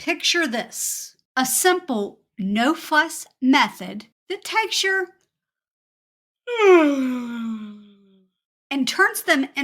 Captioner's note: yawn